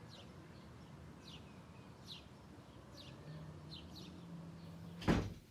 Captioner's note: birds chirping